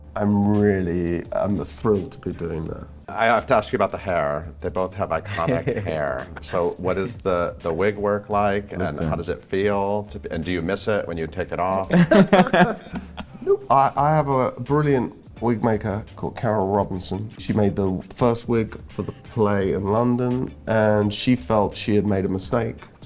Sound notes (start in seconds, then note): 5.2 Pope laughs; 11.9 Bettany and Pope laugh